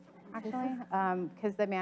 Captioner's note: audience laughs